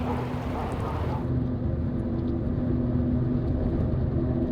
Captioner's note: road noise